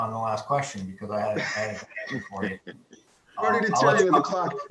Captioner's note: laughing